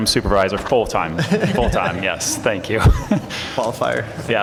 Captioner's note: laughter